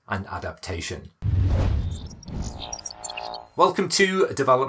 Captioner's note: air whooshing